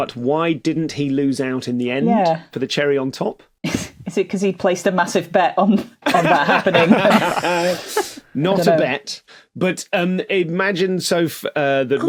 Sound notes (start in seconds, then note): 6.0 group laughing